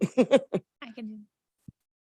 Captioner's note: laughing